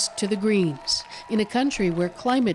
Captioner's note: cheers and Applause